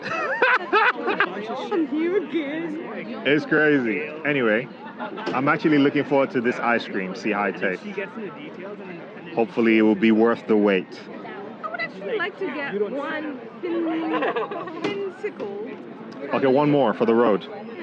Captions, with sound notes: so she's like.. "its so nostalgic" [laughter] It's crazy. Anyway, I'm actually looking forward to this ice cream. See how it tastes. Hopefully it will be worth the wait. I would actually like to get one...